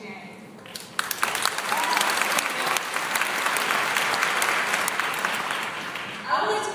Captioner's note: applause